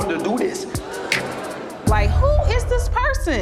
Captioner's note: congregation gasps